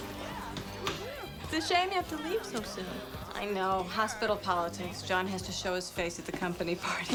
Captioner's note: upbeat music; guests chattering